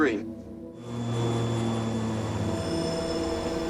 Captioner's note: engines droning; foreboding music